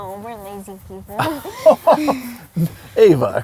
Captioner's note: laughs